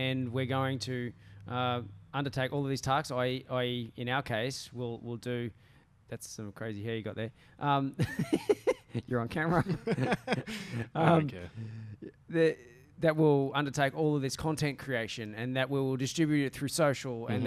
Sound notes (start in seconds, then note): 9.4 laughter